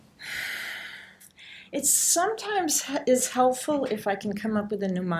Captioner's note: sighs